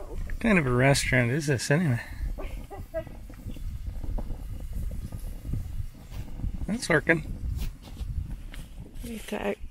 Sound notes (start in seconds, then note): 2.4 laughing